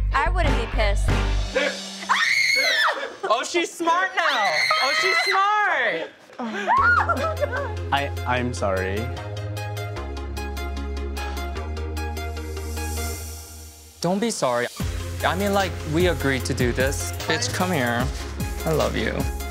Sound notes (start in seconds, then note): 2.0 screaming